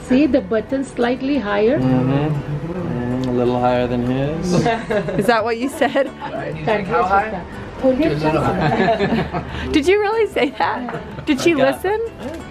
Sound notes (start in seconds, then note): 8.4 laughs